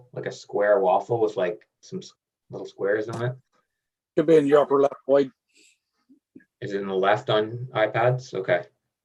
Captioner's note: none